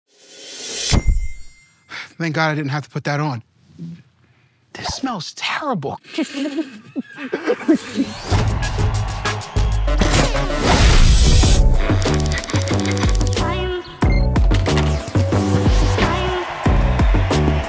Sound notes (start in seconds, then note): 0.2 cymbal shimmers; 0.9 bell dings; 1.8 exhales sharply; 3.9 sniffs; 6.0 and crew laugh; 8.1 intense music; 11.8 keyboard clicks; 14.0 security system beeps